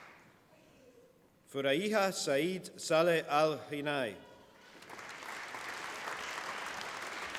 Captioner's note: applause